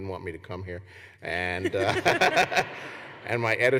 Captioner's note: laughter